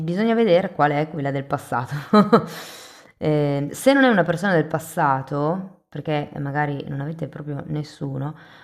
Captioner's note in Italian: risate